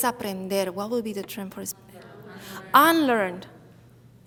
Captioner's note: speaks in Spanish; audience murmuring